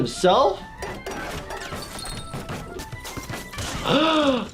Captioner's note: flutes banging